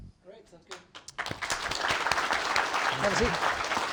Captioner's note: applause